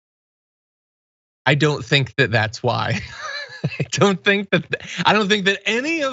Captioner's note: laugh